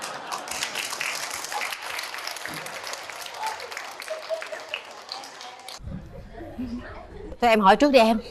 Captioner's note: applause